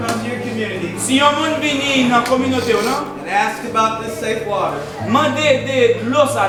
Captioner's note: speaking in foreign language